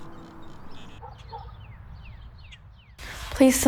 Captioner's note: bird chirps